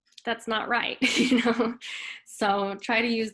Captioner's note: chuckles